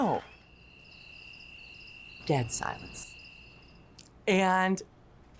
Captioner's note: crickets chirping